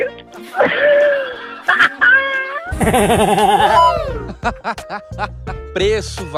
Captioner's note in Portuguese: risos